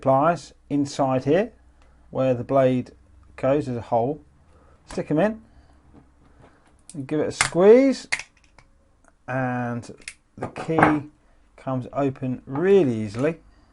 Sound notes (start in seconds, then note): 8.3 pop